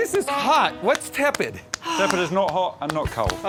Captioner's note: Stevie sighs